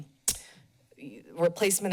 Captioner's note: tongue clicks